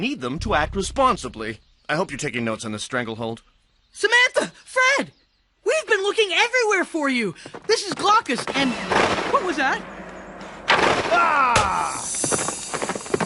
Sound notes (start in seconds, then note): 8.5 bang